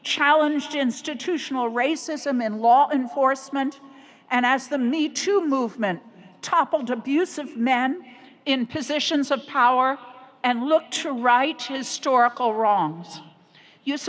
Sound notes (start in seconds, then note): none